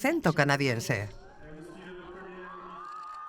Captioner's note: Prince William speaking in French; crowd cheers